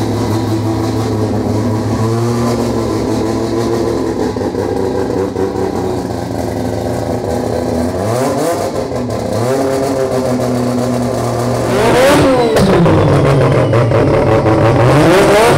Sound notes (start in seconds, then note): 2.2 car engine revving